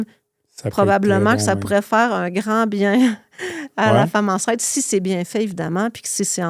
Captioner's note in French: rires